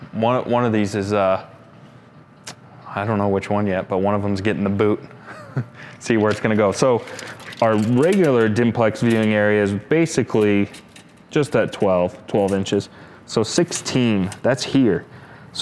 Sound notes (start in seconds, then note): 5.2 chuckles